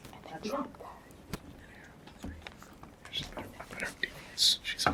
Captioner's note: students whisper